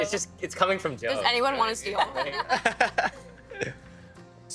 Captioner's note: others laughing